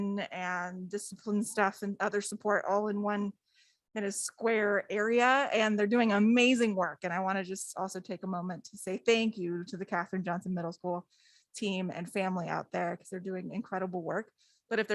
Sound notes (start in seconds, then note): none